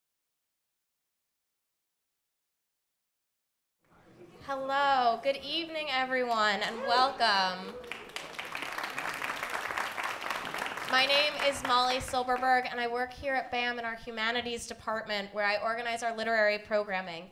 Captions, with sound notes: - Hello, good evening everyone and welcome. (applause) My name is Molly Silberberg and I work here at BAM in our Humanities Department where I organize our literary programming.